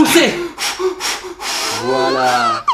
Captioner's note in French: soufflements brefs et réguliers